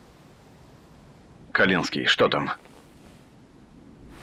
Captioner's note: radio